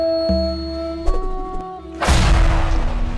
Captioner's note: sword whooshes; explosion booms